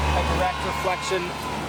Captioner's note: crowd cheer at the background